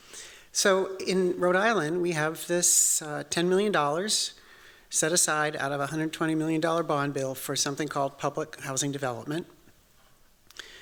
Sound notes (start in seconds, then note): none